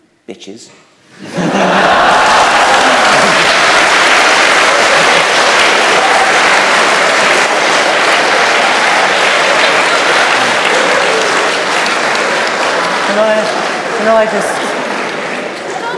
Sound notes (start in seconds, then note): 1.2 laughter, applause